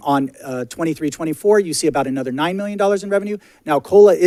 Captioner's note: none